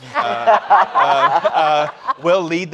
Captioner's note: all laughing